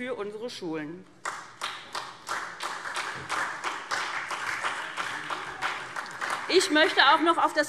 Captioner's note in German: Beifall SPD